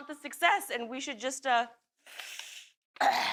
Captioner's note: sniffles